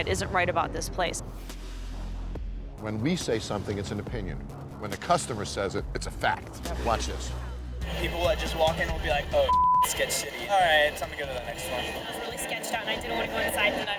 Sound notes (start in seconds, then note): 9.4 beep